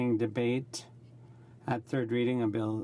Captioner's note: speaking in french